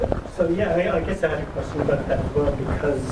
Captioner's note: voiceover